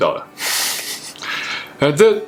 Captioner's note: laughs